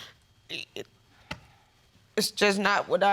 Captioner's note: stammering